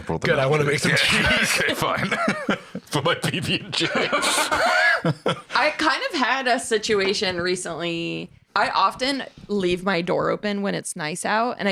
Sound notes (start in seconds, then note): 4.4 laughs